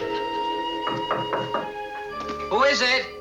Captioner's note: knocking on door